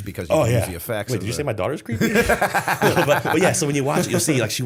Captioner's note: laughter